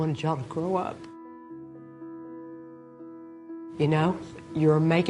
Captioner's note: voice breaking